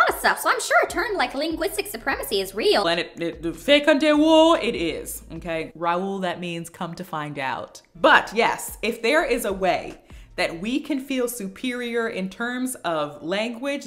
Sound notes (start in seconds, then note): 2.6 in Wolof